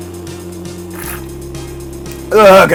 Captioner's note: sip